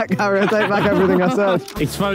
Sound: Harry and Tobi laughing

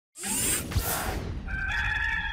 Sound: mechanical whirring; rooster crowing

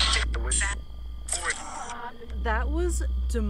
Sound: Necrophonic app screeching

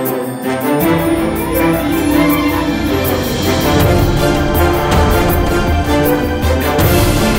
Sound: cicada

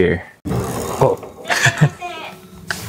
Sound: door opens; chuckles

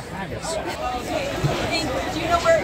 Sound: laughs

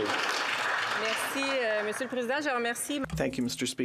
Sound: applause

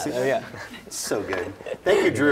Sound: laughs

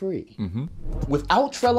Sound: voiceover

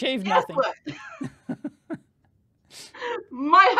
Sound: laughing

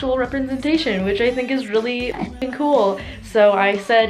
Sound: Enderman gurgle

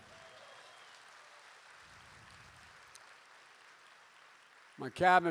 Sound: applause

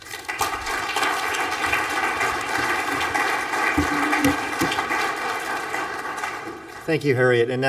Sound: applause

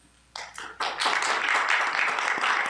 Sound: applause

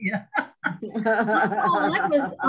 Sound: laughs

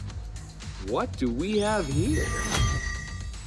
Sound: magic sound

